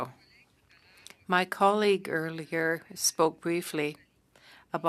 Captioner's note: speaking French